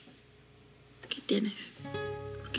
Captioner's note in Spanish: none